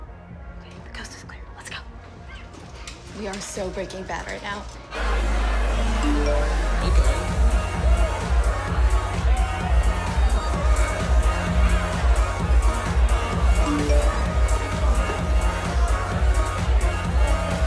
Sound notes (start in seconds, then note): 6.0 phone chimes; 13.6 phone chimes